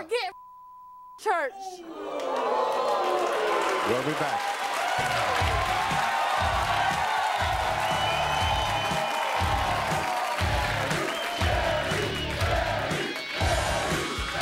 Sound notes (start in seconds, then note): 0.2 beep; 1.6 audience jeering; 4.4 audience cheering; 5.0 edgy music